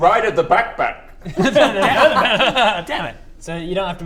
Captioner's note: laughter